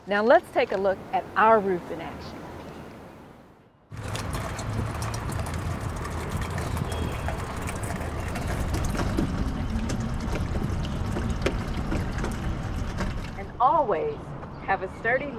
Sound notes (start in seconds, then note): 3.9 water raining on plants; 3.9 water flowing into barrel of water